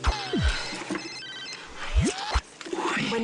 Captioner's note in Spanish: Suena celular